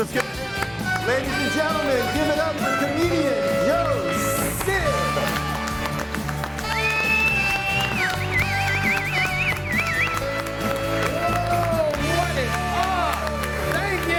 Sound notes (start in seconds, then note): 1.2 upbeat music; 6.3 audience applauds and cheers; 6.3 upbeat music